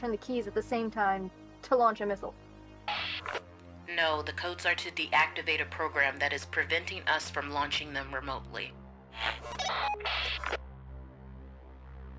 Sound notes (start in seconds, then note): 9.1 radio bleep